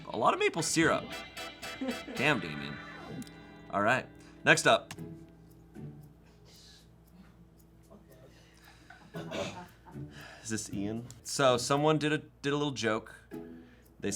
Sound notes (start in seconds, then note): 4.8 key clacks; 5.4 soft music